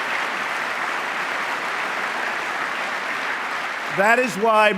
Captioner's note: applause